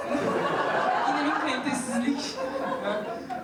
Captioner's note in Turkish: Gülüşmeler